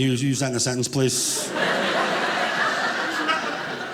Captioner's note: audience laughing